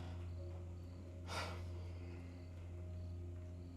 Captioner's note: Tyler sighs; crickets chirping; gentle music